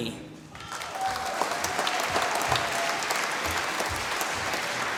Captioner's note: applause